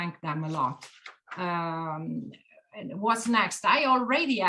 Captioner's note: paper rustling